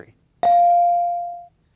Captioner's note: bell ringing